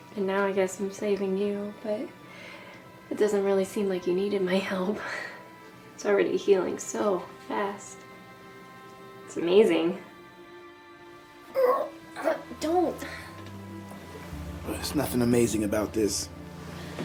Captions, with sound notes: And now, I guess I'm saving you, but it doesn't really seem like you needed my help. It's already healing so fast. It's amazing. (Malcolm groaning) Don't. - There's nothing amazing about this.